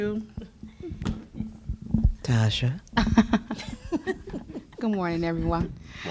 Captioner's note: laughter